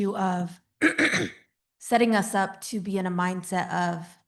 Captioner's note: clears throat